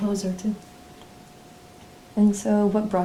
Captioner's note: none